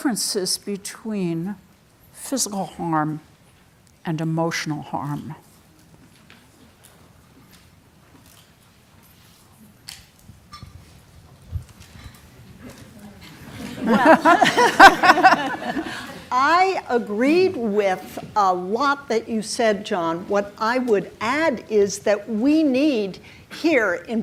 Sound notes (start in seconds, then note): 12.8 audience murmuring; 13.3 laughing